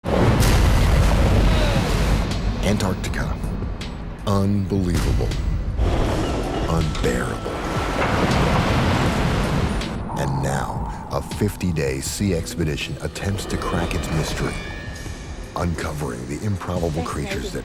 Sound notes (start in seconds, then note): 0.1 wave crashes; 7.1 water crashing